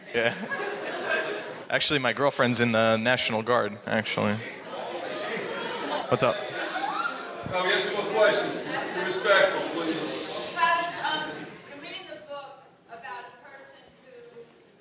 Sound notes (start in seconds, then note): 0.1 laughing; 4.6 people chattering all at once